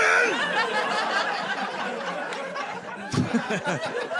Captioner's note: audience laughing